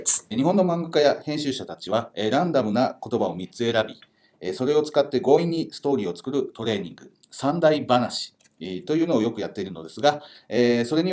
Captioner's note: speaking Japanese